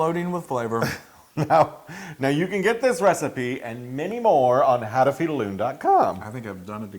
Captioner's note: laugh